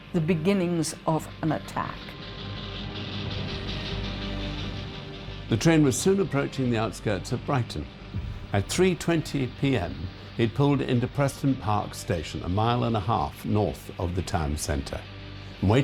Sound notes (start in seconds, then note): 2.7 dramatic orchestral music; 2.7 train chugging